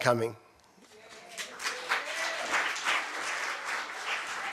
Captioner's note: applause